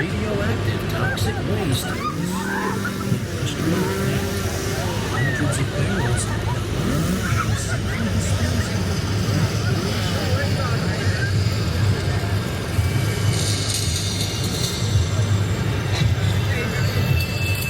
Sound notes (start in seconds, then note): 2.2 chainsaw revving; 7.3 chainsaw revving; 10.1 chainsaw revving; 12.3 metal rattling; 14.0 machines whirring